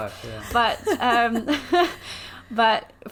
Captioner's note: laughs